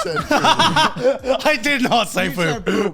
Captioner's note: laughs